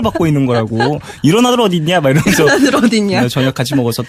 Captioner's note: repeats his words laughing